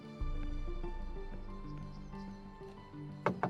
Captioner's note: birds chirping